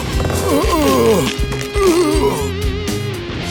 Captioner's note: grunting; straining